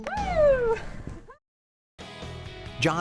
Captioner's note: laughs